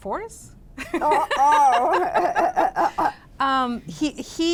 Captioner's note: laughter